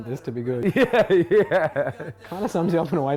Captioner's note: laughs